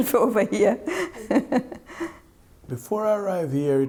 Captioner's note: laughs